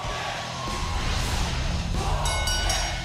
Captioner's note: bell ringing